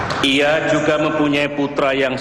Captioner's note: non-english speech